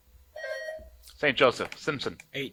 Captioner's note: buzzer buzzing